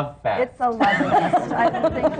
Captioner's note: laughter